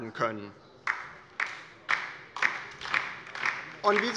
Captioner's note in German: Beifall bei der LINKEN